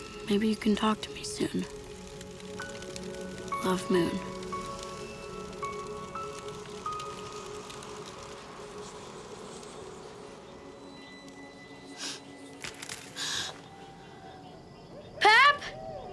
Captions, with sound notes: Maybe you can talk to me soon. Love Moon. (twigs cracking, Moon gasps) - Pap!